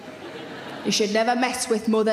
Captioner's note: audience laughing